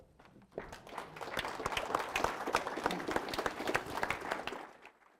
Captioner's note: audience clapping